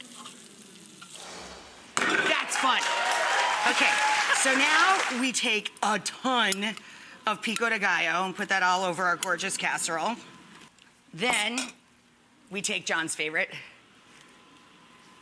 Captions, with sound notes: That's fun. (audience applauds) Okay, so now we take a ton of pico de gallo and put that all over our gorgeous casserole. Then, we take John's favorite,